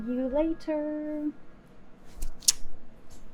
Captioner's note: kiss noise